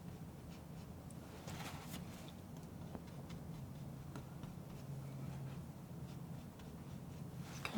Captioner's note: scratching